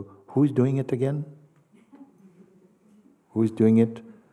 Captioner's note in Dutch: gelach